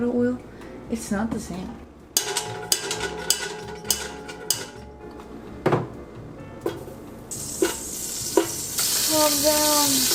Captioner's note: clanging sounds